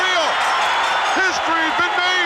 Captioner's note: bell rings